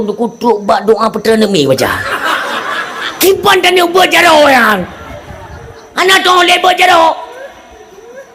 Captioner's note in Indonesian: tertawa